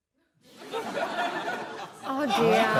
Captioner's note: laughter